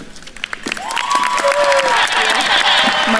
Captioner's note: audience cheering and applauding